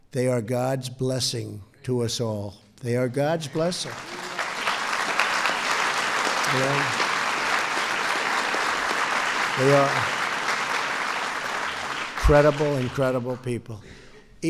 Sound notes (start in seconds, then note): 3.7 applause